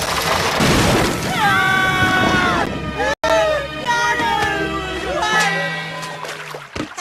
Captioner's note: panicked screaming